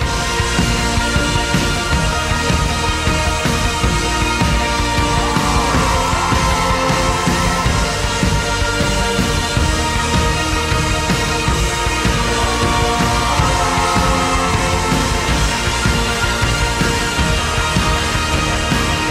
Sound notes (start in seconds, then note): 0.1 uplifting, rock music; 5.4 crowd cheering; 12.6 crowd cheering